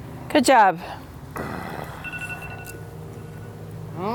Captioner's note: groans